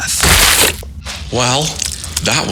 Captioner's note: body splats